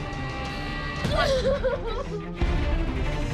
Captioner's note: sobbing